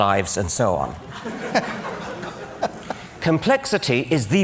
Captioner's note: laughter